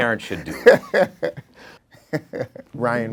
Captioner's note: laughing